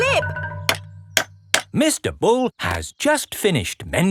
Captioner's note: clanking